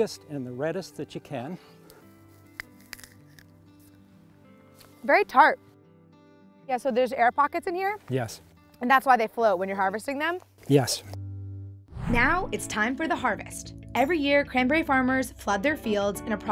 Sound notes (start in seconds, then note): 2.5 cranberry crushing